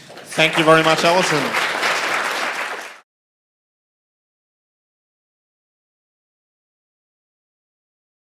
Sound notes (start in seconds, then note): 1.8 applause; 3.4 silence